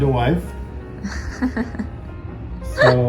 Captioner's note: laughing